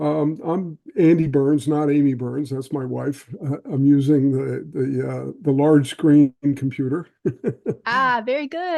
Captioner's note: laughing